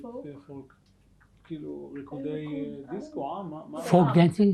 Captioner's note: hebrew